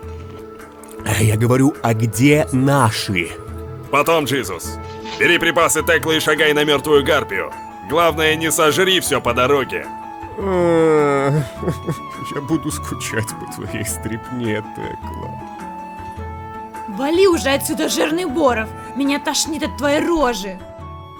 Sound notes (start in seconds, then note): 0.0 swallows; 11.5 sad-crying voice